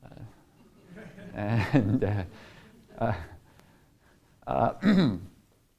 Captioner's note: audience chuckles